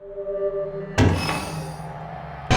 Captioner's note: trunk opening with a pneumatic hiss